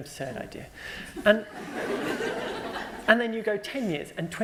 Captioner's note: laughter